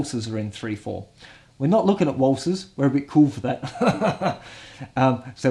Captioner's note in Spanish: se ríe